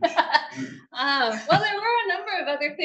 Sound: woman laughing

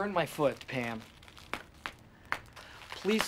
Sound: package bubbles popping

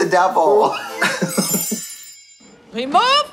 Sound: laughing; soft chiming

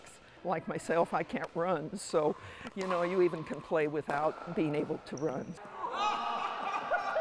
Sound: cheers

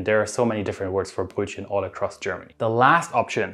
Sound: speaking German word

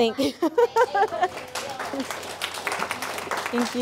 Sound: applause

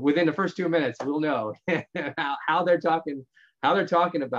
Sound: laughs

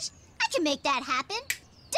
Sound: finger snaps

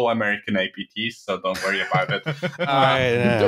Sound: laughter

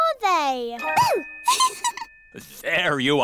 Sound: giggles

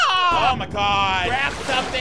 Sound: water flowing

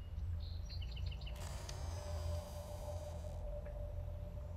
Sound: door creaks

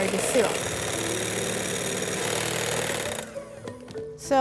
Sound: mixer whirring

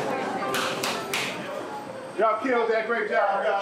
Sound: claps

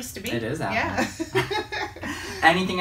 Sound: both laughing

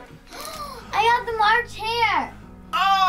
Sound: gasps

